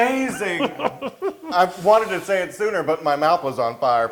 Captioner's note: laugh